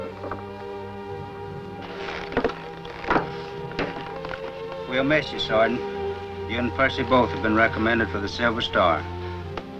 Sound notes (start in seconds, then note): 0.0 dramatic music; 1.8 rustles